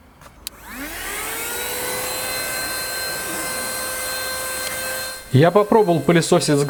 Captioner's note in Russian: шум мотора